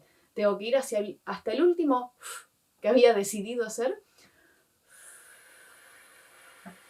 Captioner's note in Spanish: soplido